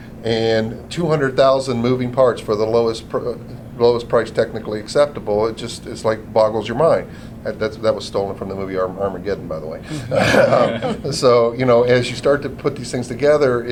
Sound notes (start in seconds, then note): 10.1 laughter